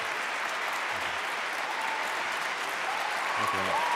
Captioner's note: applause